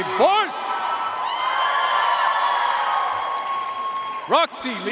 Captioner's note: audience cheering and applauding